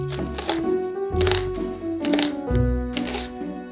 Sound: knife chopping

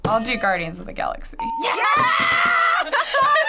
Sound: hitting bell; ding; both laughing

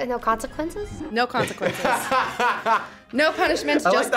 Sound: laughs

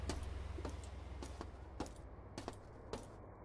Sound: footsteps

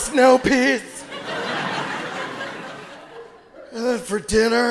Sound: audience laughing

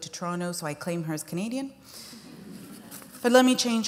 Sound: laughter

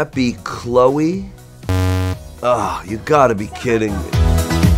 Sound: buzz

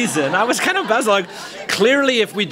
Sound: laughter

